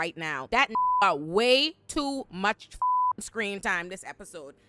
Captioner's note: beep